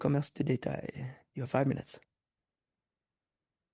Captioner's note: speaking French